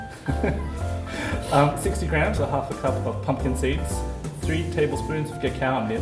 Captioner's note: laughter